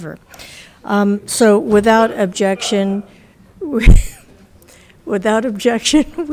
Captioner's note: chuckling